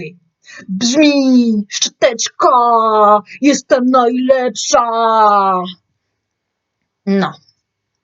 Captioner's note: polish words